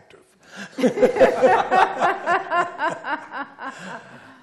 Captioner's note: laughter